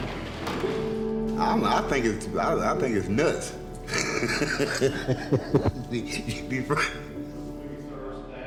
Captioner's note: laughs